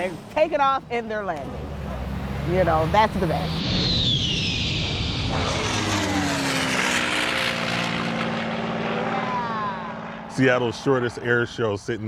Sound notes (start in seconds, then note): 5.9 engine roars